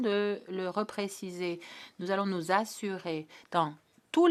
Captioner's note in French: voix de l'interprète